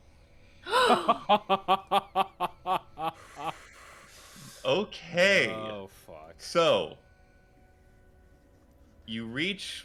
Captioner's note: laughter